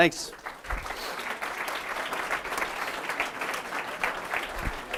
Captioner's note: audience claps